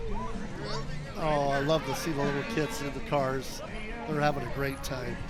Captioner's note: crowd chattering